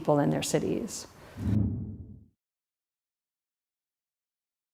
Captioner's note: air whooshing